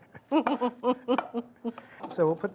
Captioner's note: both laugh